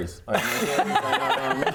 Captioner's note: honest laughter